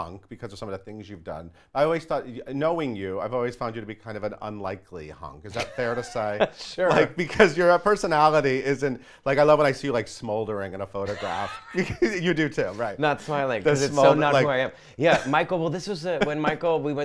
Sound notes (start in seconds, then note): 5.5 laughs; 11.0 murmurs; 11.0 laughs